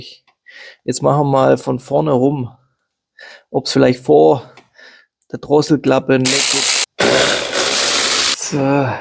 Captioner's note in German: schnauben